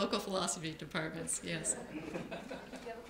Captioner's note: laughter